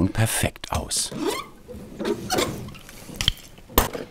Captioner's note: soft squeaking